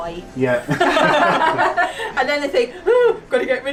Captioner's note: all laugh